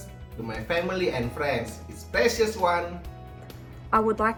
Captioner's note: speaks faintly